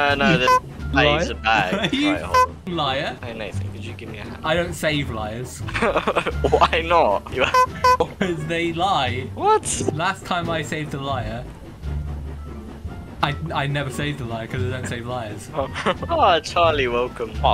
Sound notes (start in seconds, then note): 5.6 laughing; 15.7 chuckle